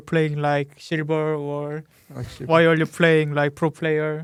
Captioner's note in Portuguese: risos